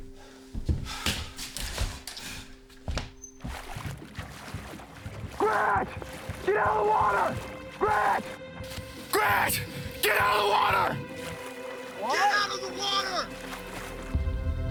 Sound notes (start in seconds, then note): 3.5 water splashing